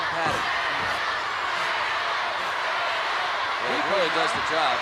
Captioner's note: crowd cheering